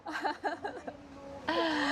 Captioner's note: laughing